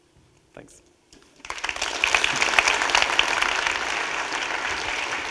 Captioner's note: audience clapping